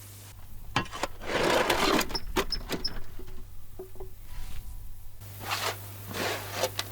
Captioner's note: spade scrapes against the wheelbarrow